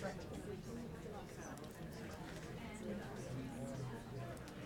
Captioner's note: people chattering